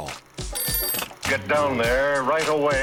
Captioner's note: telephone rings